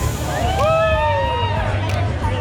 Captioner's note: cheers